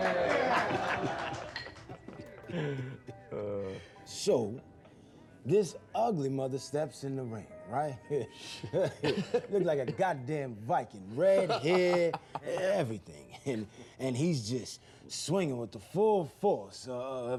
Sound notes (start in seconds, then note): 0.0 applause, laughter; 8.4 laughing